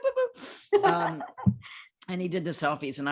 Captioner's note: laughing